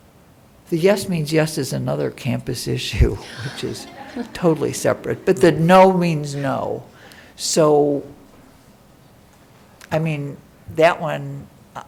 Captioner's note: laugher